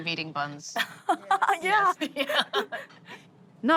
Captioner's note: laughs